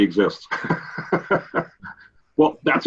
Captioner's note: laughs